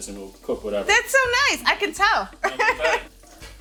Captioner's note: laughing